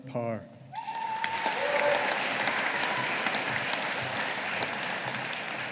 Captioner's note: audience applauding